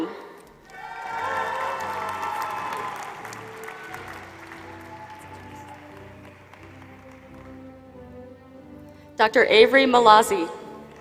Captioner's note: applause; applause